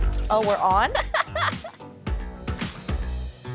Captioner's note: laughing